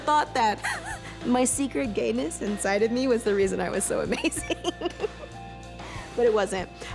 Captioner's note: laughs; laughs